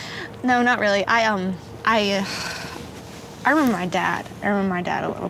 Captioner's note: sighs